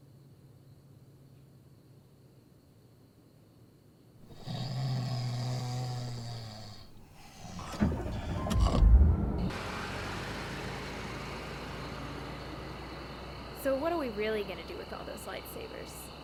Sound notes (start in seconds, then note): 4.2 snoring; 7.8 engine starts up